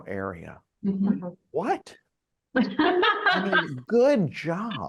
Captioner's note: both laughing